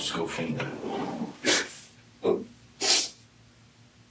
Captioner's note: crying, sniffling